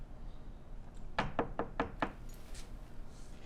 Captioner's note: knocking